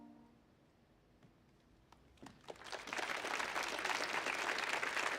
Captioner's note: audience applauds